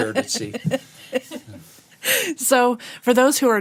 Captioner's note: laughter